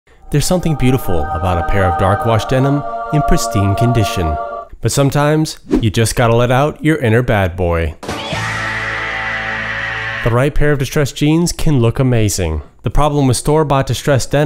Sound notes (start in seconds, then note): 8.0 sound effect